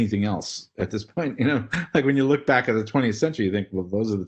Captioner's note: laugh